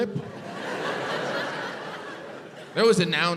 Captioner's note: crowd laughs